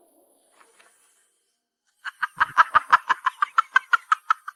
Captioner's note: maniacal laughter